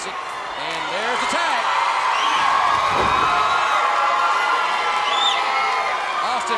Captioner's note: crowd cheers